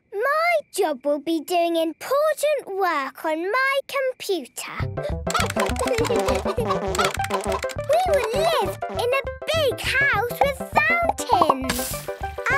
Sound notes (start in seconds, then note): 5.2 computer game chickens clucking; 5.2 keyboard tapping